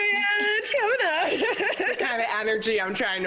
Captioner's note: laughing